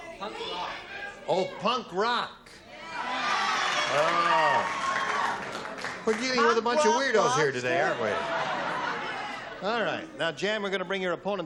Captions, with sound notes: - Punk rock. - Oh, Punk rock. [cheering and applause] We're dealing with a bunch of weirdos here today, aren't we? All right, now Jan, we're going to bring